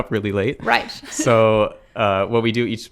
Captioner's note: laughs